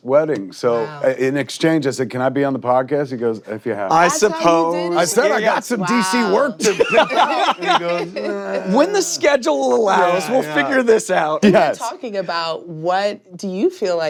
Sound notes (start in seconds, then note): 7.1 laughing